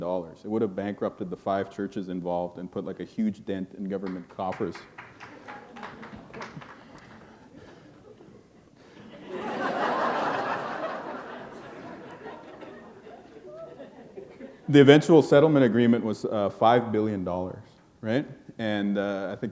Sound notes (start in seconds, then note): 6.9 laughter